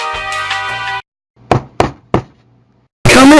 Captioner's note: knock knock knock